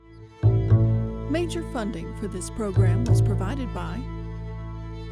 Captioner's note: voiceover; mid tempo music